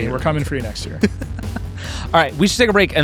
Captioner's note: laughing